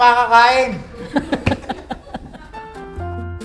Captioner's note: laughs